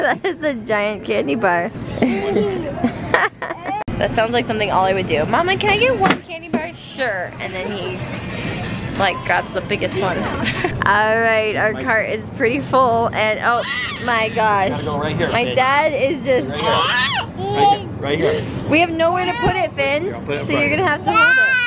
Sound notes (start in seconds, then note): 2.0 laughter; 10.4 laughter